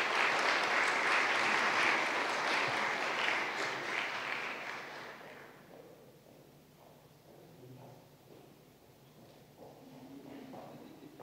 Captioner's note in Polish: oklaski